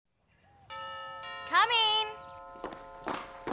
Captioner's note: doorbell rings